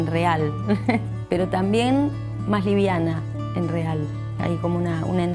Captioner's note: chuckles